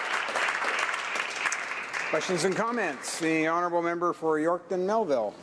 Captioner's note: applause